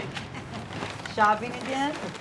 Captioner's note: laughs